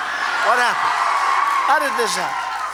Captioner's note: applause